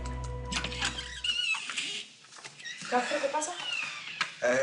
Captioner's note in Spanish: Chirrido al abrir la puerta